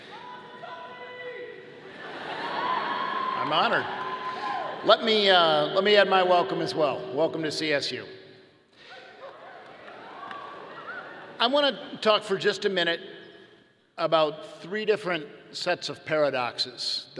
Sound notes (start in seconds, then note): 1.8 audience laughing; 9.3 audience cheering